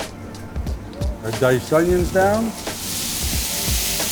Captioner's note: butter sizzling; onions sizzling